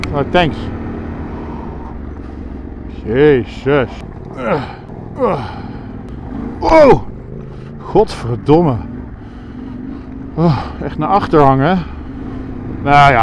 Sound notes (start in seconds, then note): 8.0 swears in Dutch